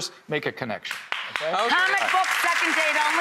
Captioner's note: audience claps